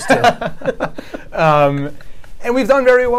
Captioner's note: laughs